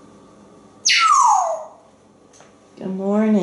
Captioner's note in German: whistling